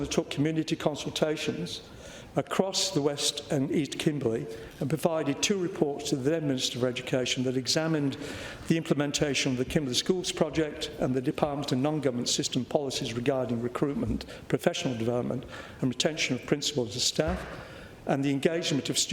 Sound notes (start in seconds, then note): none